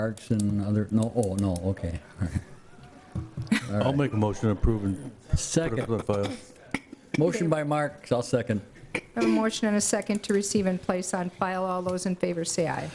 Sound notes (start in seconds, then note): 3.4 laughter